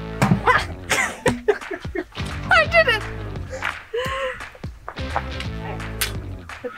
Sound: both laughing

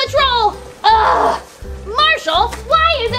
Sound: growning

